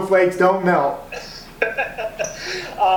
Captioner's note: laughs